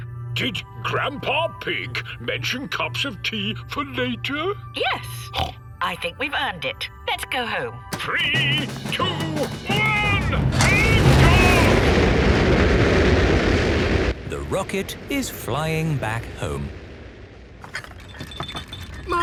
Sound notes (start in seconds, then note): 12.0 rockets blasting